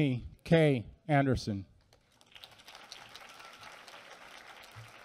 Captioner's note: applause